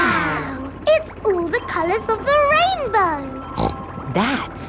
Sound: snorts

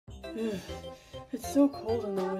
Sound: cold inhaling sound

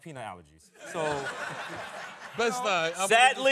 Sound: laughing

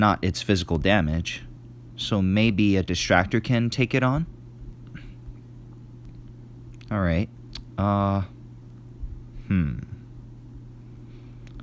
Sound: cough

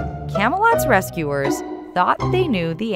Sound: none

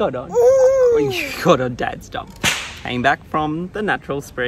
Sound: goo's and ga's; whip cracking

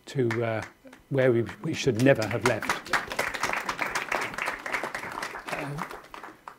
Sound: audience clapping

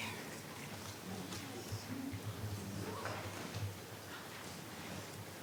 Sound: speaking faintly

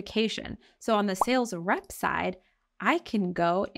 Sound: chat bubble blooping; text overlay blooping

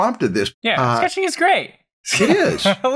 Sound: laughs

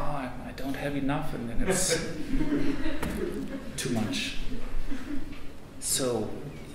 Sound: audience laughs

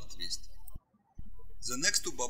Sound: birds chirping

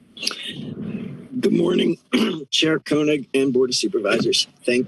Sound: clears throat

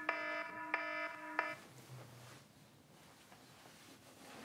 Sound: alarm stops

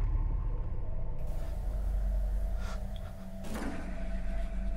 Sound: heavy Breathing

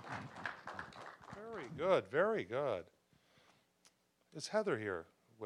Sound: applause

